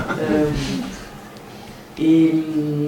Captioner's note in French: rires